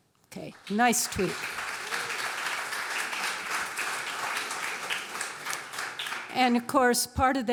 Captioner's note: applause